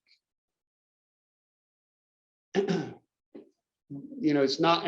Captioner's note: cough